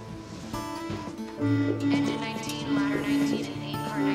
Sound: klaxons sound

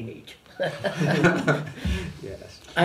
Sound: laughter; laughs

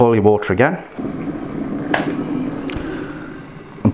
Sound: boiling

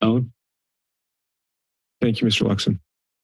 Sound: silence

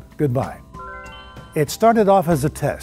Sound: dinging

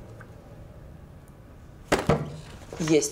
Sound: knocks on the table

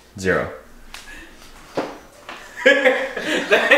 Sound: laughter

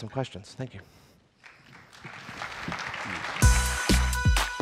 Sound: applause

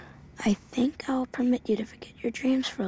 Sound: voiceover

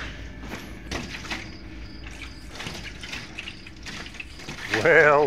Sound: crickets chirping

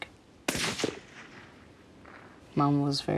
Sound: gunshot rings

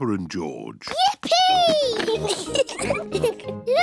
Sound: giggles

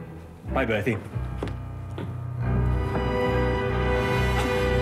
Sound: none

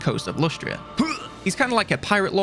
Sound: grunt

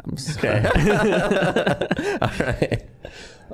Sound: all laughing

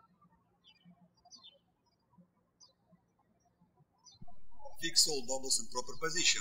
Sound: birds chirping

